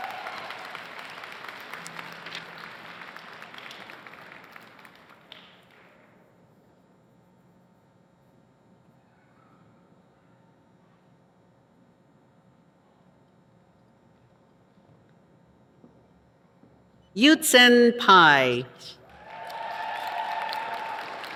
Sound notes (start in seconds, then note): 4.1 applause